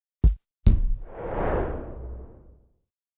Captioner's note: bump & swish noise